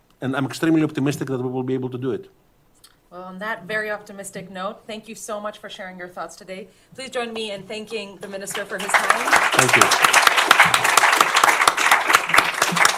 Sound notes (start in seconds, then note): 10.1 applause